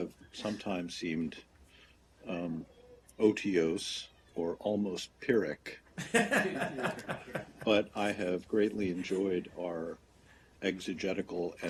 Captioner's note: laughter